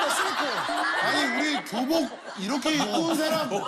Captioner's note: laugh-crying